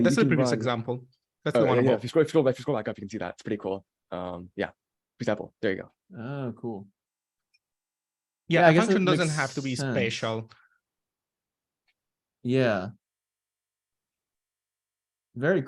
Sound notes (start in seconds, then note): none